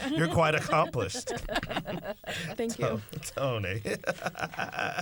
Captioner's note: laughter